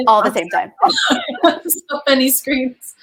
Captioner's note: laughing